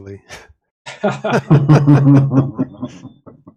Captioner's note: laughter